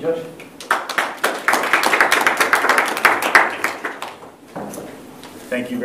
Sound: applause

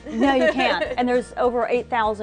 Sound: laughs

